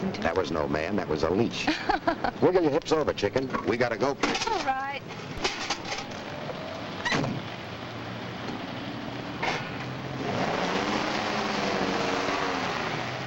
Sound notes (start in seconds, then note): 1.6 Ann laughs; 7.0 door slams; 10.2 motor revs